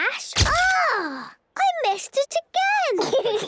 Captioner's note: camera clicks; giggling